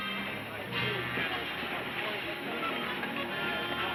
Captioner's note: people chattering